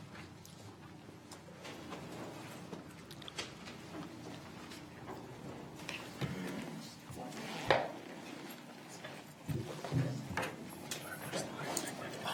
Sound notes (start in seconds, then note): 7.8 whispers